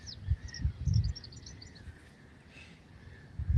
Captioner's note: birds chirping